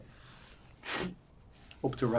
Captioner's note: wiping nose